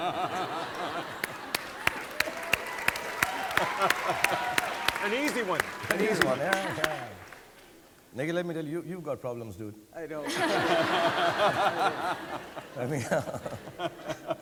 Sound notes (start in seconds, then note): 0.0 everyone laughing and applauding; 10.2 audience laughing